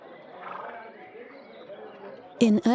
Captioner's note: men chattering